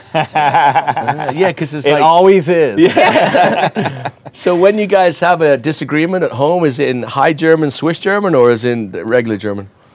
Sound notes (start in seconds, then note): 0.0 laughs